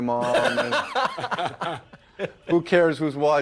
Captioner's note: laughter